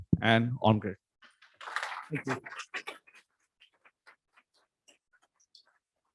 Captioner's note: applause